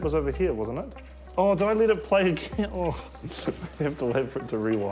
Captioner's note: tape whirrs